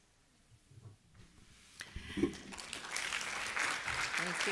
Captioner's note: applause